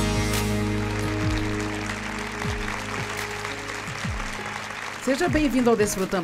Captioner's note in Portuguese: audiência aplaude